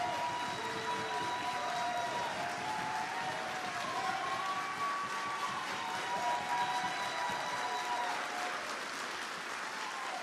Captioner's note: applause